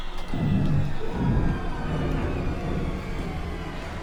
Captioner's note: more screams and gunfire